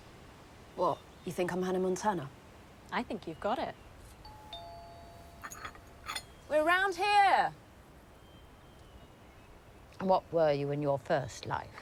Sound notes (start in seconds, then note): 4.3 doorbell ringing